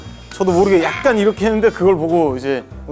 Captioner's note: scared